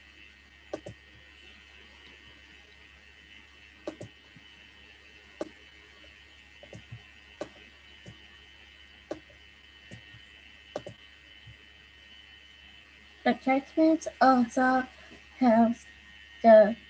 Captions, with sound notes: (keyboard clacking) The attachments also have the picture,